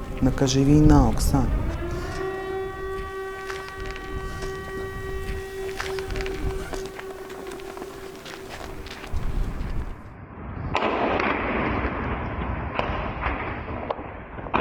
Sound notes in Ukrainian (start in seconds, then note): 2.9 звуки сирени; 10.3 звуки вибухів